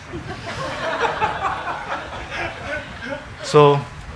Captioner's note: congregation laughing